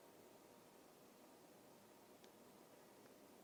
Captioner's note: none